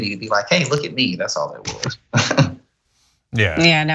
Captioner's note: laugh